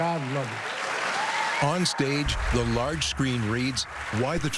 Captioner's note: cheering and applause